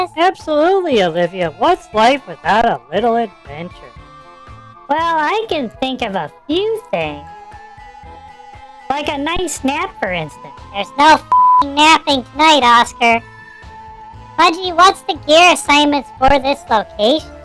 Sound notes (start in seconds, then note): 0.0 nervously; 5.4 sarcastically